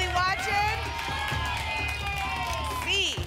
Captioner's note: applause and cheering